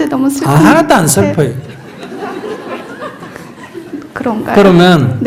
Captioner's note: audience Laughter